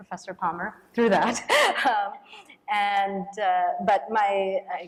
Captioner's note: chuckles